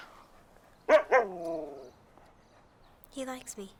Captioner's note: Buck barks